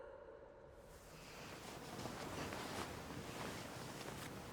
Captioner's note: cloth rustles